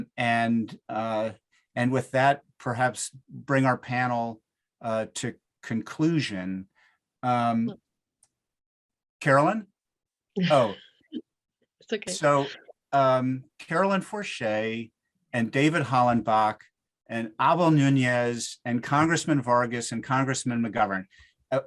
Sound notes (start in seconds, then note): 10.4 chuckles